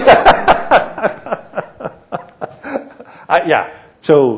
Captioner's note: laughter